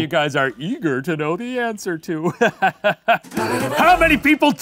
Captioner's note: laughing